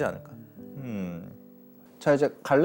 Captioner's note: agreeing